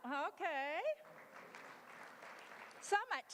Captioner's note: applause